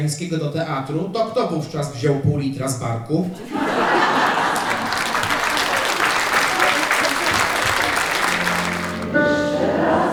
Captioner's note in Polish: śmiech